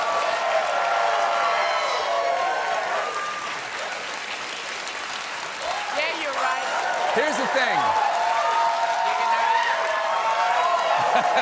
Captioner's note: cheers and applause